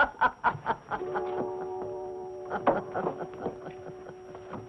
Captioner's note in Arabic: يضحك